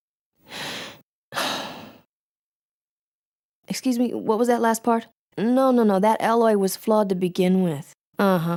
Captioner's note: sighs